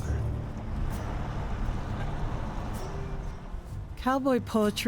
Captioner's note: engine rumbling